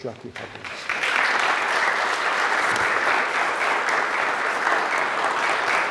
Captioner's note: audience applauding